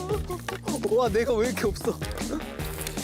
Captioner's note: laughs of desperation